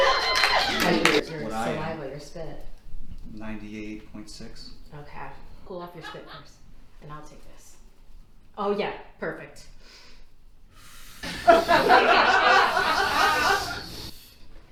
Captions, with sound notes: - Like your saliva, your spit? - 98.6. - Okay, cool off your spit first, and I'll take this. Oh yeah, perfect. (cooling inhale)